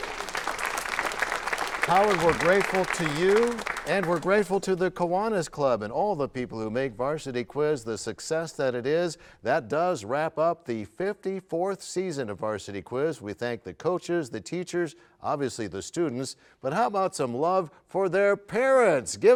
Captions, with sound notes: -Congratulations! [cheers and applause] -Howard, we're grateful to you. And we're grateful to the Kiwanis Club and all the people who make Varsity Quiz the success that it is. That does wrap up the 54th Season of Varsity Quiz . We thank the coaches, the teachers, obviously the students, but how about some love